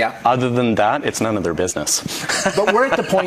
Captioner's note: laughs